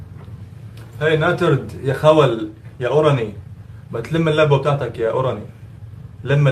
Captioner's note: speaking in Arabic